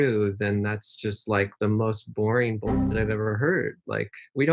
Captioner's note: boing sound